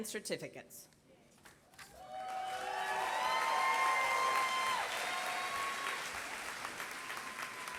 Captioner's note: applause